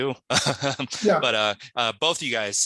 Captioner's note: laughs